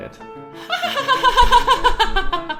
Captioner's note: laughs in Tom Hulce Amadeus style